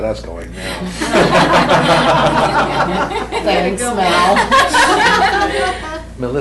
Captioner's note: laughter